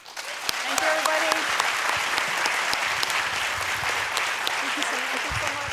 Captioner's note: applause